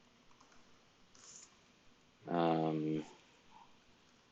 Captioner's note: keyboard keys clicking